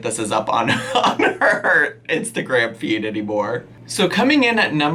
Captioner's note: laughing